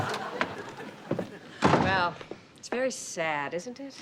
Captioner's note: door closes